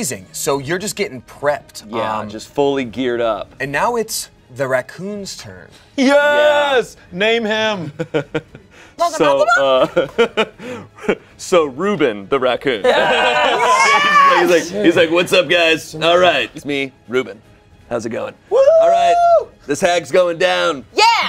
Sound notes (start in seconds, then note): 7.9 laughs; 12.8 everyone laughs